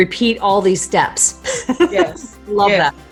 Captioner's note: laughing